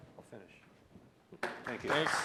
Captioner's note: applause